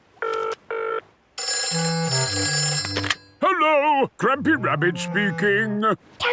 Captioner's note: phone ringing